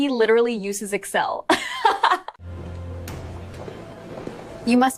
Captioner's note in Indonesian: tertawa